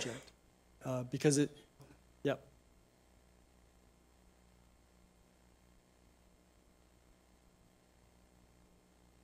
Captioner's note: silence